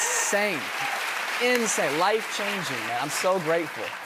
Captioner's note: cheers and applause